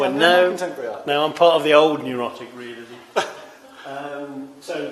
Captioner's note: laughs